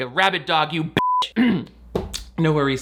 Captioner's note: beep; coughs